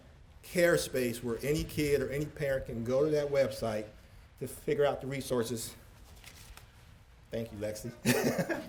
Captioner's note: laughter